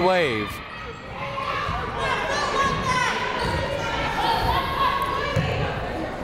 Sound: people shouting in the crowd

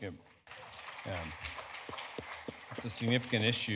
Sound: audience applauding

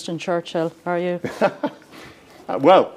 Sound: laughs

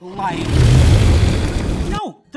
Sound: dragon roars and breathes fire

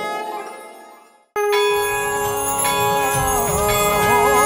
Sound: conch blows

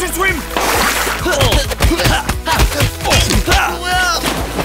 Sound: grunting

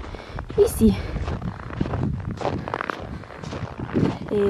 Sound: footsteps in the snow

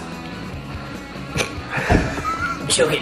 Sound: coughs

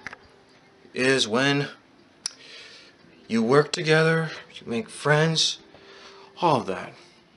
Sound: clicks tongue

